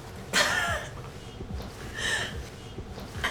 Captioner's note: laughs